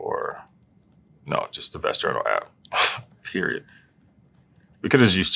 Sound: laugh

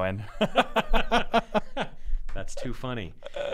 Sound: laughing

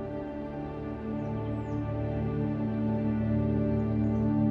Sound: birds chirping

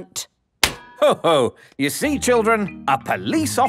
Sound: slaps

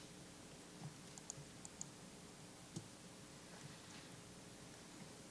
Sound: mouse clicking

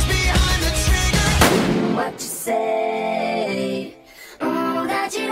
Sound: gunshot

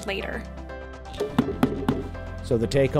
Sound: pounding

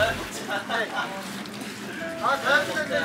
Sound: exhilarated

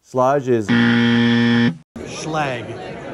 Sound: buzzer sounding

